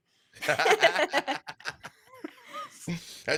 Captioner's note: laughs